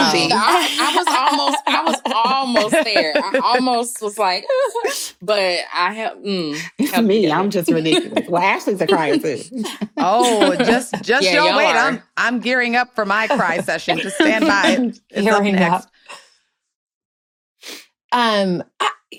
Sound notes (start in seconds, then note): 0.0 chuckling; 4.7 mock sobs; 13.3 chuckling